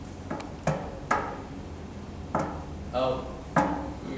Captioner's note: Eric raps on table